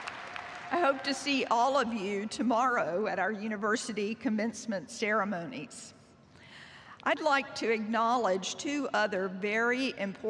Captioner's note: cheers and applause